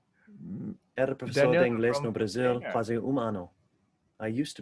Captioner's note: speaking in foreign language